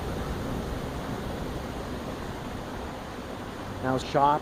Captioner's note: water gurgling